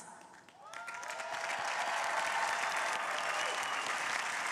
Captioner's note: crowd applauding